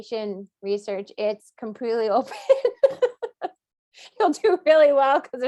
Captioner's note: laughs